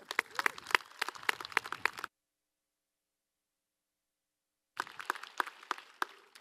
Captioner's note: applause